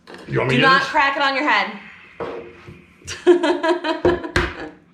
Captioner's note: sighing; laughing